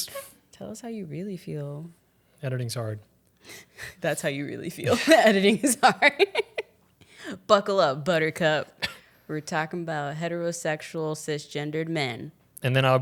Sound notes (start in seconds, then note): 4.9 laughs